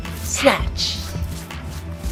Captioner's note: snatch sound effect